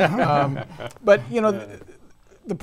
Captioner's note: laughing